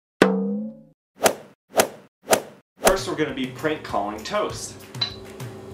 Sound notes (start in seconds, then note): 0.2 bong